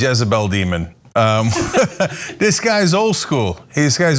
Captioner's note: laugh